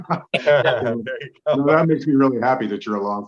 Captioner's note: everybody laughing